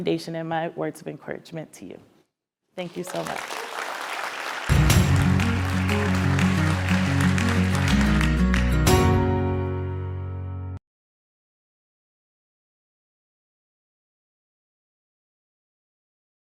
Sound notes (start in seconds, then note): 2.8 applause